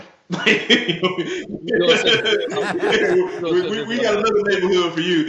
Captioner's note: laughing